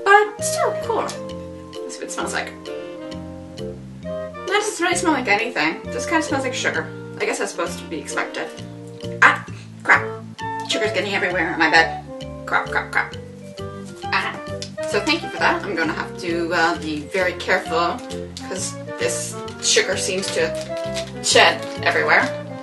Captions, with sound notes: but still cool. Let's see what it smells like. ...it doesn't really smell like anything, it just kind of smells like sugar. I guess that's supposed to be expected... Ah! Crap! Sugar's getting everywhere on my bed! Crap crap crap! *incoherent grumble* So I think with that you have to, uh, be very careful because this sugar seems to shed everywhere...